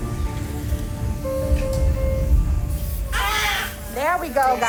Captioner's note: monitor beeps; baby cries